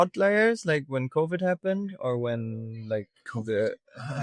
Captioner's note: laughing